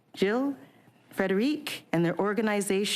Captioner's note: speaking French